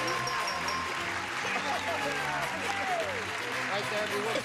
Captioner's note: clapping